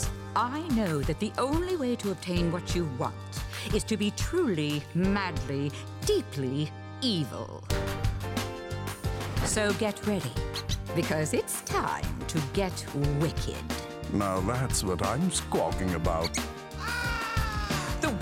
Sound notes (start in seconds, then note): 10.4 squeaks; 16.8 caws